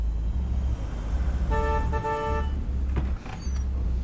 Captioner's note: horn honks